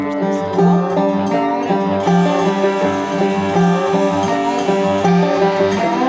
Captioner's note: speaks foreign language; instrumental music; saw whirring